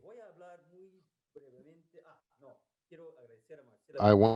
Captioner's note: speaking in a foreign language